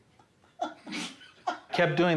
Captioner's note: laughs